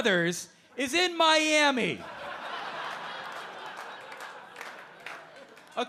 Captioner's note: audience laughing